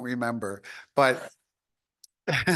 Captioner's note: chuckles